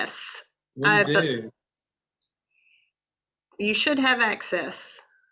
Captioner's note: mumbles